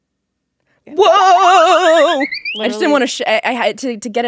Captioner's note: shaking voice